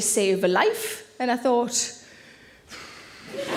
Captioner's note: exhaling